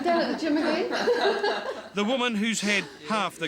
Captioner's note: laughter